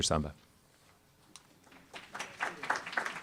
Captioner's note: applause